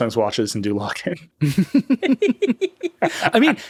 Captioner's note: all laughing